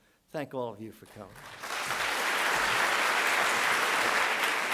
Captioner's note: applause